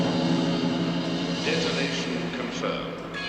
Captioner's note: detonation confirmed